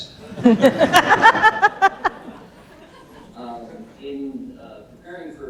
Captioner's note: audience laughing